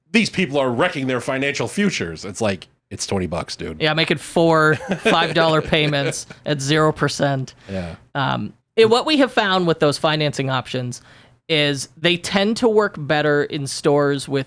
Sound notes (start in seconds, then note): 4.7 laughs